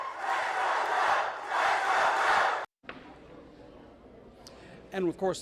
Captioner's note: cheers and applause